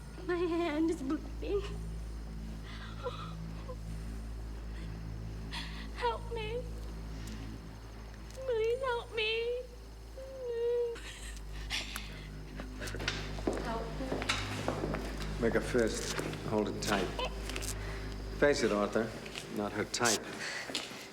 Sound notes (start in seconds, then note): 2.6 cries; 10.1 cries